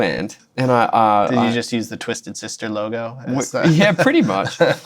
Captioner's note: laughter